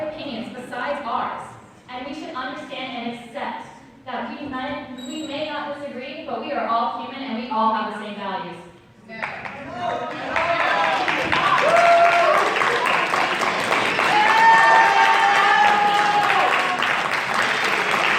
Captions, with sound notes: opinions besides ours, and we should understand and accept that we might, we may not disagree, but we are all human and we all have the same values. -No! No we do not!- [crowd cheering]